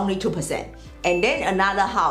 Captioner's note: bell chimes